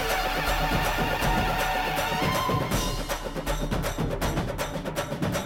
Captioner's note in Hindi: तालियाँ